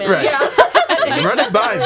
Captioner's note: laughing